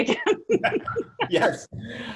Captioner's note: both laugh